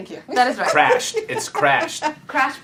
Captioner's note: laughter